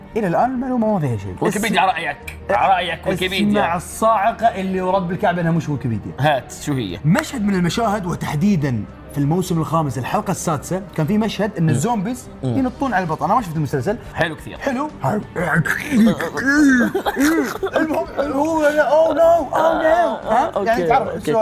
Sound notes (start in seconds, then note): 15.8 screeching and snarling